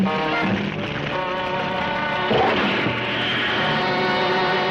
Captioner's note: fire rustling